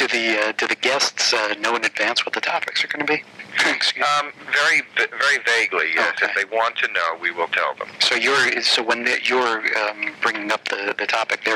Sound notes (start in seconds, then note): 3.4 coughing